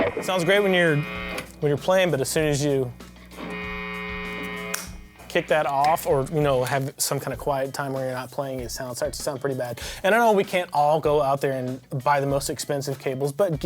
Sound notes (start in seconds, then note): 2.9 humming sound